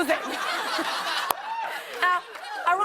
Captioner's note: laughter